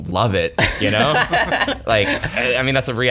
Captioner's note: laughing